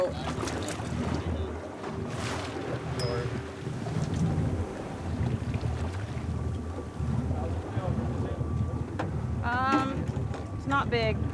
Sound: fish splashing

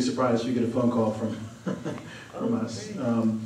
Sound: chuckles

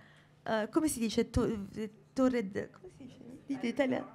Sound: speaking italian

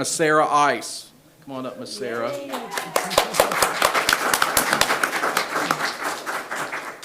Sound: people cheer and clap

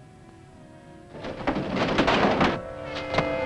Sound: crates thudding; dramatic music

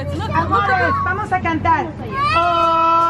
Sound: speaking in foreign language; singing in foreign language

